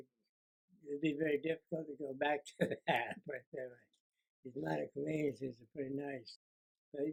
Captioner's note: laughter